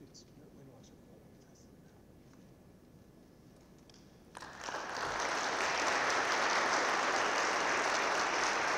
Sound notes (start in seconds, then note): 4.3 audience claps